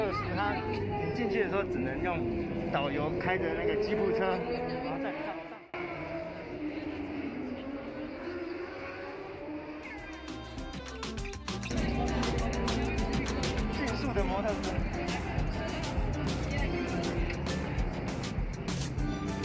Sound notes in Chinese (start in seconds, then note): 5.7 很吵的引擎聲